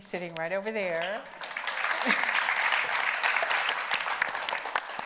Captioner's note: audience applauding